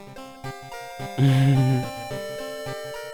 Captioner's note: chuckle